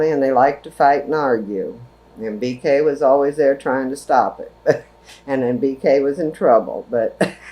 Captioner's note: laughs